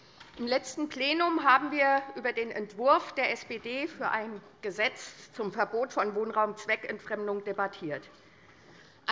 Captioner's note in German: none